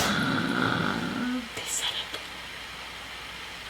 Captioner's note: both gasp; whispers